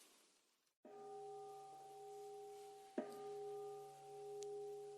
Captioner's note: bell ringing